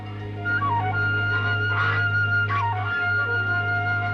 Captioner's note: honking